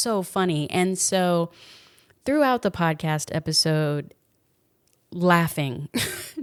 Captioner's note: laughs